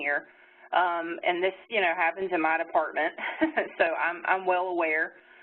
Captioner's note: chuckles